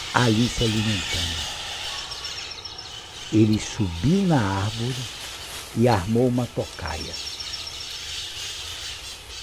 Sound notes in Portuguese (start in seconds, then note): 4.6 Som de galhos e folhas